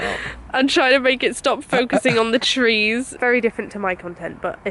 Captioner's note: laughing